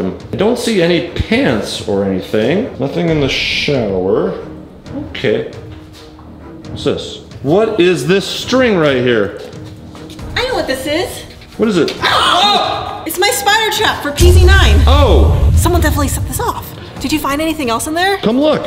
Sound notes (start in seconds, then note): 12.4 screaming and gasping